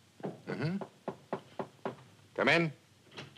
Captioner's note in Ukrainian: стукає